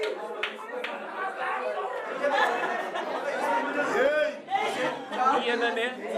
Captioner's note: applause; speaking in afrikaans; laughter